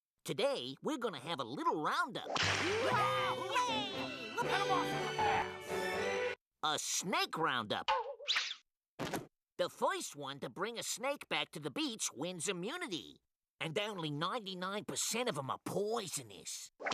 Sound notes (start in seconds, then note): 2.5 all exclaiming